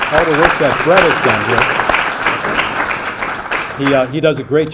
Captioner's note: applause